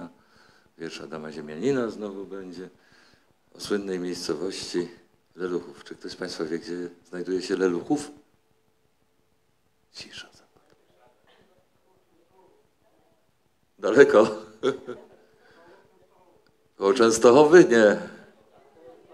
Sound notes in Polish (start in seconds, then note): 8.5 szept; 9.8 głosy z sali; 14.6 śmiech; 16.9 głosy z sali